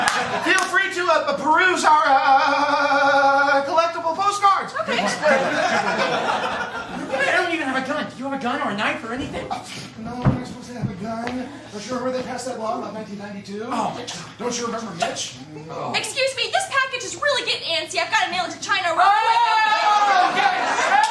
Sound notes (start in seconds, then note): 2.7 stuttering; 8.7 scoffs; 15.2 groans apprehensively; 20.2 laughter